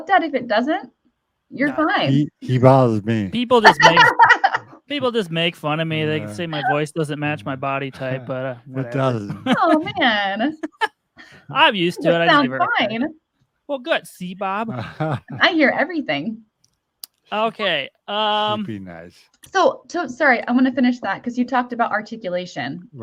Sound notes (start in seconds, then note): 11.3 laughs; 14.2 laughs